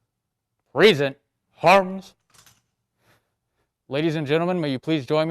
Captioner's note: faintly speaking